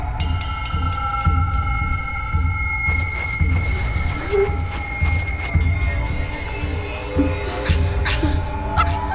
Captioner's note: eerie noises; cackling